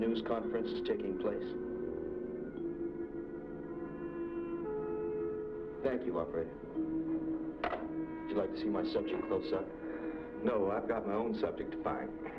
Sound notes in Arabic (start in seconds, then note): none